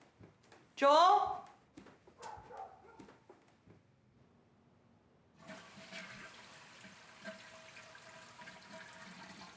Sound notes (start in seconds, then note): 2.1 dog barking; 6.0 water splashing